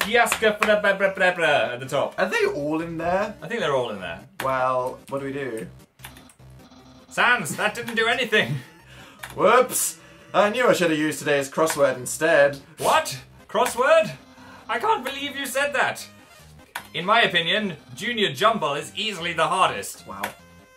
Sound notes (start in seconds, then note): 8.4 laughs